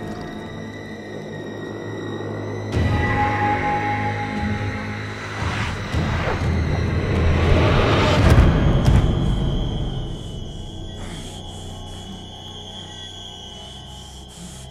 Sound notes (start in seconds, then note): 0.1 dripping; 8.2 bodies thud amid dramatic music; 10.1 pained gasping